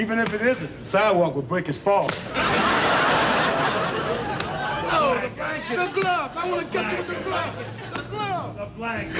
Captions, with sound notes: - Even if it isn't, the sidewalk will break his fall. (audience laughs) - No, the blanket. - The glove. I wanna catch him with the glove. - The blanket. - The glove.